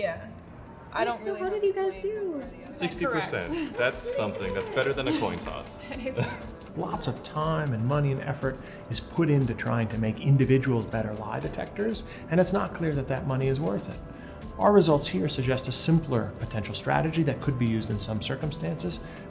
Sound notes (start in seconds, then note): 5.5 laughter